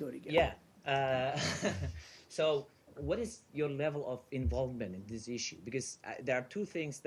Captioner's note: laughter